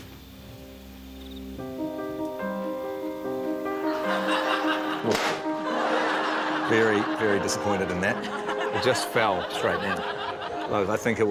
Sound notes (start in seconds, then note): 1.6 sombre piano music; 3.9 laughter; 5.0 pop!